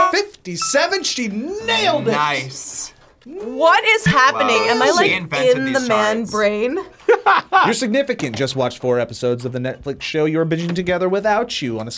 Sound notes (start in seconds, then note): 7.0 laughs